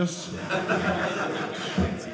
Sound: audience laughing

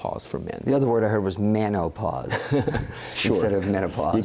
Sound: laughter

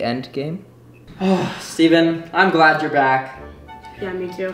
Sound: sighs

